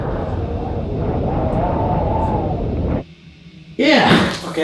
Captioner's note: wind howling